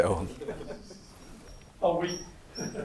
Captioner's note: audience giggling